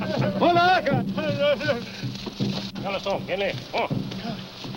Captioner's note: speaking in foreign language